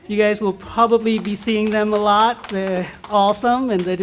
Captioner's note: applause